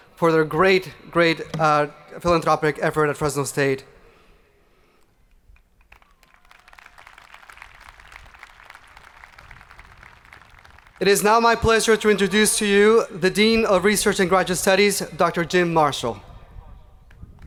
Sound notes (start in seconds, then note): 5.8 hands clapping; 5.9 people cheering